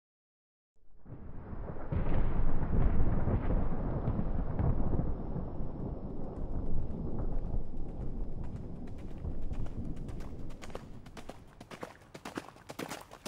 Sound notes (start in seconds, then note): 0.9 thunder rolling; 8.0 horse galloping to us from a distance